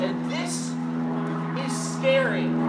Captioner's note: plane engine roaring